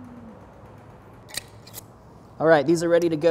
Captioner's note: jar lid clacks